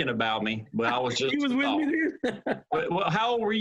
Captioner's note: laughter